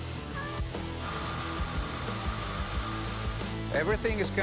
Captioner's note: machinery whirring